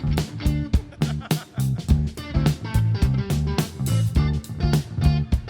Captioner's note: laughs; funky rock music continues